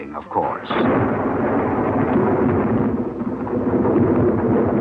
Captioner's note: thunder rolls